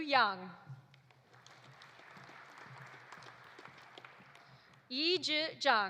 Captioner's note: audience applauding